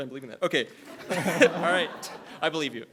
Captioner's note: all laughing